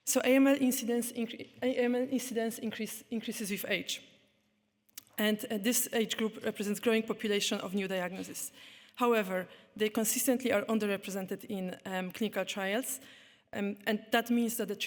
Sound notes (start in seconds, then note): none